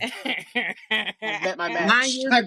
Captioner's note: laughing